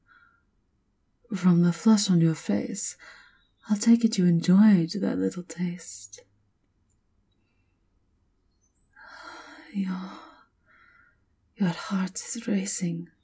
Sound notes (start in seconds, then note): 9.4 sighing with pleasure